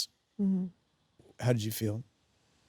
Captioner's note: Sydney hums